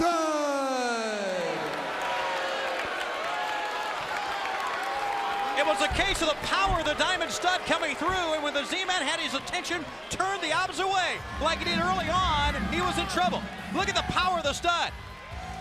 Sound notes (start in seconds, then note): 2.0 crowd cheering